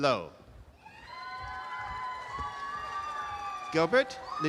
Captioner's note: audience applause